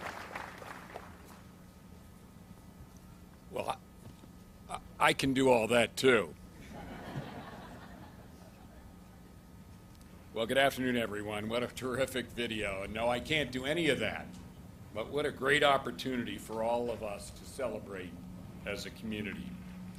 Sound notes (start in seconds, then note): 6.6 audience laughs